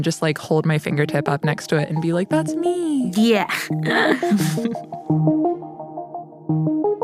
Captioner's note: laughs